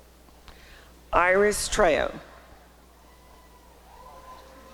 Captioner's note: applause and cheering